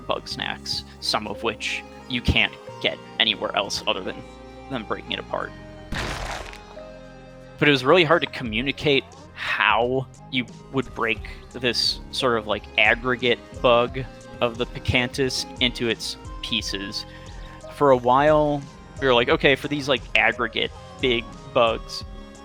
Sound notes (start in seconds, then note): 5.9 explosion